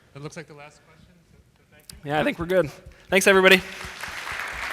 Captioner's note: applause